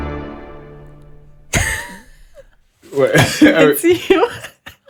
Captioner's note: laughing